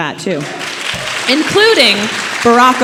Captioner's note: audience applauding